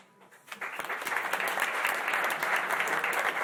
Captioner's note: applause